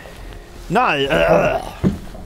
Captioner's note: grunting